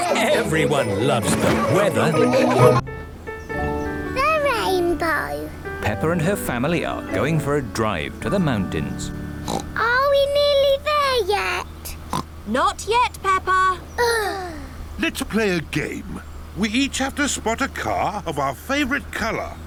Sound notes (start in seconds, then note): 9.4 oinks; 12.0 oinks; 14.0 both sigh